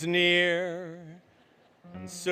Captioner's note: laughter